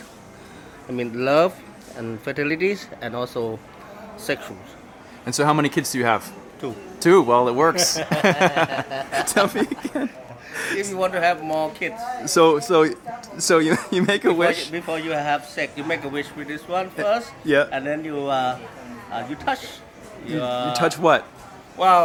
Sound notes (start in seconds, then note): 7.9 laughing